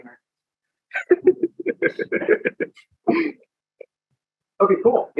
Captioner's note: laughs